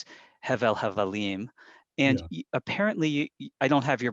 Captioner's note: speaks in Hebrew